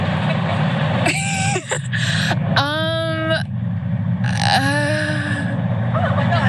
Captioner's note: laugh